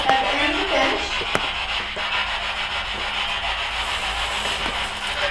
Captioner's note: static buzzing